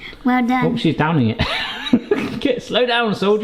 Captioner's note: laughs